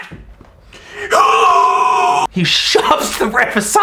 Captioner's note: screaming